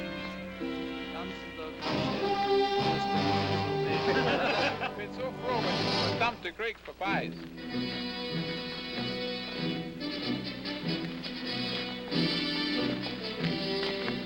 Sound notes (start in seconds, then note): 0.0 dramatic orchestral music; 1.2 soldiers speaking in German; 3.0 soldiers laughing